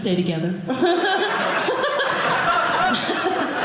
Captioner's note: audience laughing